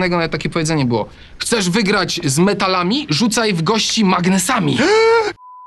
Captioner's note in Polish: odgłos przerażenia